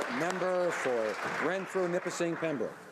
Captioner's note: some Applause